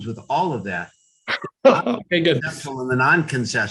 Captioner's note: laughs